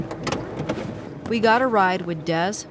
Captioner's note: door clicking